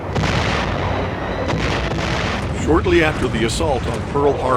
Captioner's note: explosions